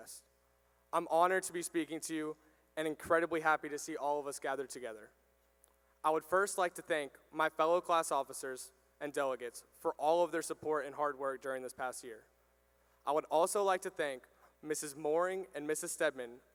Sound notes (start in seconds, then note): none